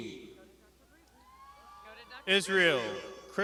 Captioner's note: crowd shouting